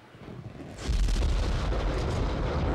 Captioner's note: rumbling